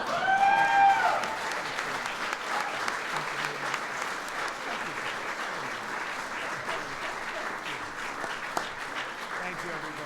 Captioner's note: applause